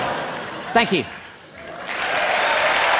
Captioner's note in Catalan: Aplaudiments